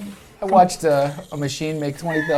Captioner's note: laughs